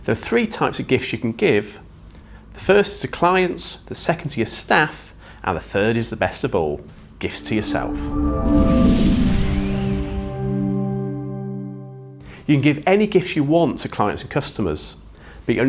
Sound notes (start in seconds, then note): 7.3 gentle music; 7.4 graphics whooshing